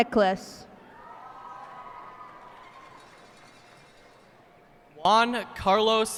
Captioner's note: cheers and applause